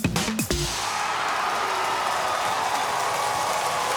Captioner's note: cheers and applause